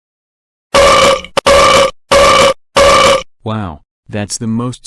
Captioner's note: loud burping